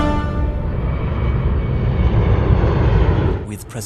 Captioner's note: airplane engine roaring